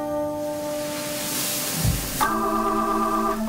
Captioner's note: loud fizzling; moves into upbeat instrumental music